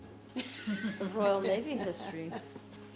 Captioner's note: laughing